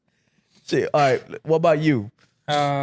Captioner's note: laughing